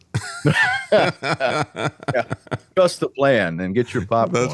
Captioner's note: laughing